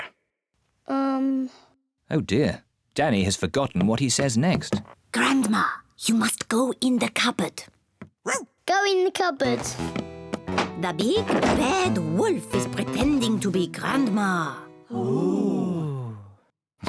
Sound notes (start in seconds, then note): 4.8 whispers; 8.2 barks; 14.9 all gasp